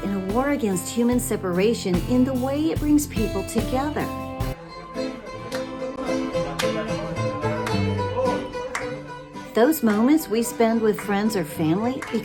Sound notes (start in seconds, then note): 6.3 clapping